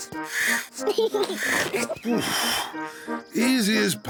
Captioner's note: giggles excitedly